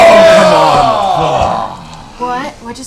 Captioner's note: cheering